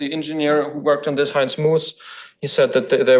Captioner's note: foreign language